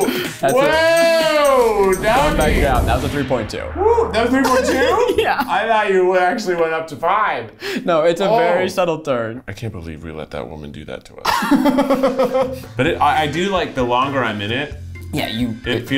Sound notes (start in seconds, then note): 11.5 laughing